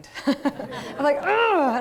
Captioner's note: laughter